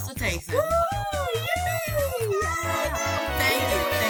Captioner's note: cheering